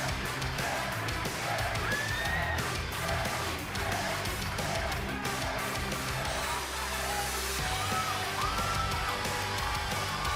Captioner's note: fans chanting; cheers & applause